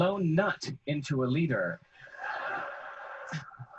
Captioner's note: audience laughing